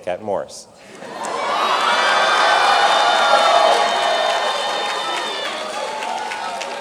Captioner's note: audience cheering and clapping